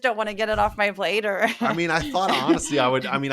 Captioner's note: laugh